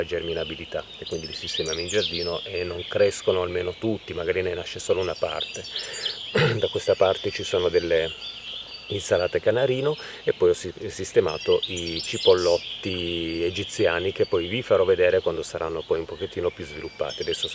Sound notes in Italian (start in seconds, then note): 6.3 schiarire la voce